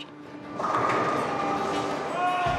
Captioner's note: pins clatter